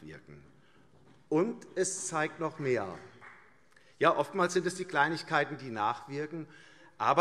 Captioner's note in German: Beifall CDU und vereinzelt BÜNDNIS 90/DIE GRÜNEN